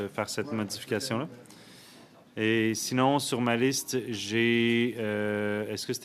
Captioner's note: speaking French